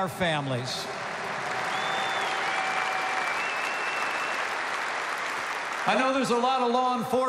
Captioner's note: applause